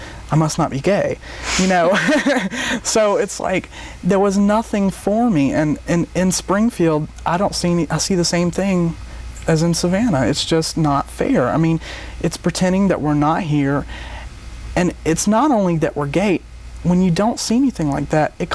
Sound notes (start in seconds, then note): 1.6 laughs